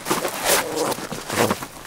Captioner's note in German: Knurren